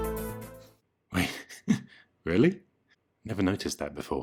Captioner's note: laughs